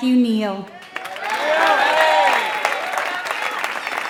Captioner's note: applause